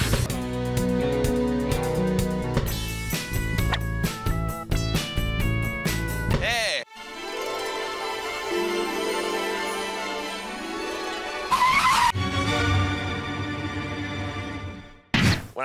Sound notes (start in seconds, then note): 2.5 quirky rock music; 6.9 enchanted music; 11.4 brakes screech; 12.4 dramatic music